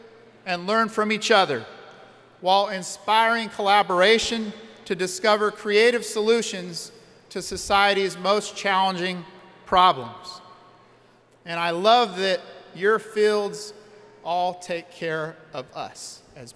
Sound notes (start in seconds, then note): none